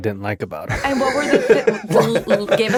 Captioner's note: laughing